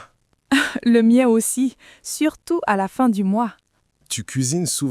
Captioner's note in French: rire